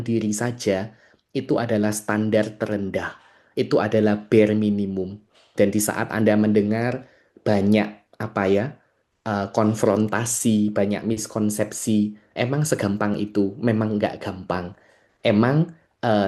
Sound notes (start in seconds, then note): none